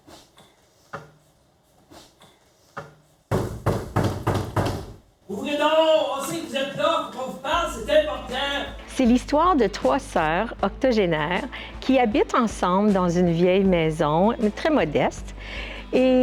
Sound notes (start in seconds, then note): 3.3 knocks on the door